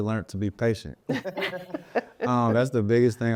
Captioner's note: laughing